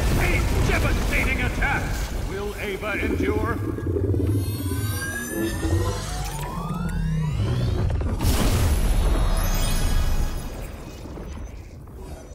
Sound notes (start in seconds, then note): 8.0 explosion